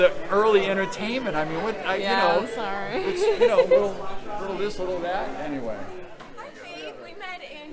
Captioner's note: laughs